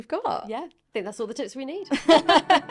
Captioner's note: both laughing